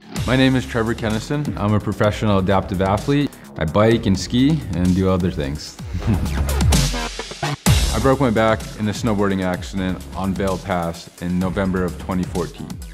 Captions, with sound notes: My name is Trevor Kennison. I'm a professional adaptive athlete, I bike and ski and do other things. (laughs) I broke my back in a snowboarding accident on Vail Pass in November of 2014.